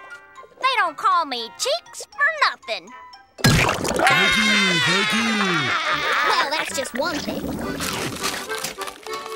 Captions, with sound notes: They don't call me Cheeks for nothing. [laughing] Thank you. Thank you. Well, that's just one thing.